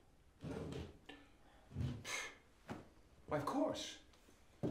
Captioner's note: exhales